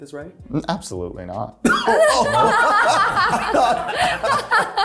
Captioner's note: cast laughing